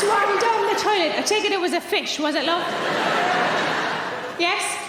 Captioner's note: audience laughing